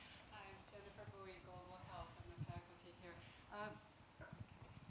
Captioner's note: talking in the distance